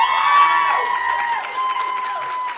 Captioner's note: audience cheering; audience applauding